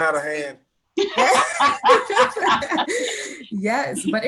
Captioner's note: all laugh